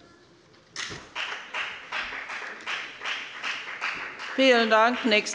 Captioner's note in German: Beifall bei der FDP